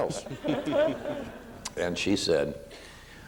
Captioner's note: audience laughs